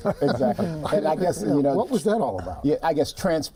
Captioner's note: laughter